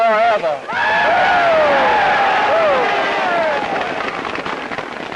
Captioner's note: crowd cheers and claps